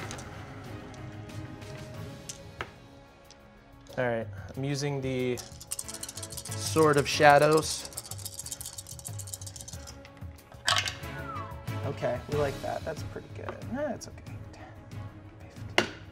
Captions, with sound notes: Alright. I'm using the Sword of Shadows. (whistling) Okay. We like that. That's pretty good. That's okay.